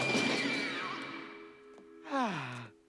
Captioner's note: crash; sighs